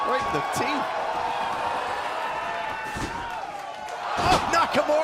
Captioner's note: crowd cheering